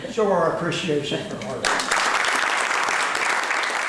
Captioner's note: applause